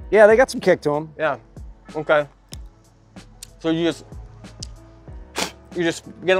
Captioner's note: spits